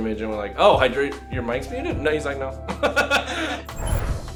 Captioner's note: laughs